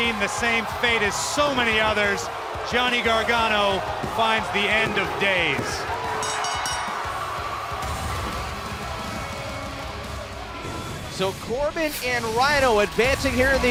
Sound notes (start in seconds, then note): 0.0 crowd cheering; 3.8 bell ringing